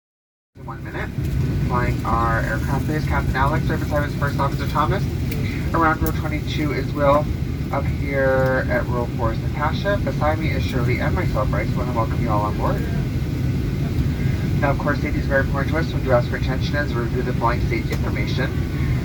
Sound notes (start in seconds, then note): 1.3 announcement